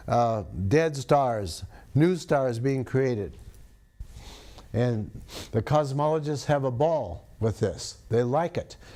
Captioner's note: sniffs